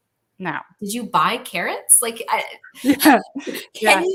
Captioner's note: laughs